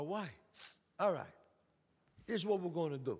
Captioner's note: sniffs